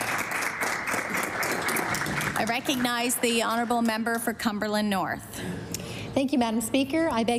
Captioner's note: applause